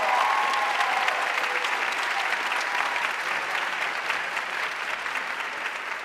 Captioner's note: audience cheering and applauding